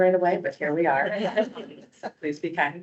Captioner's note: laughing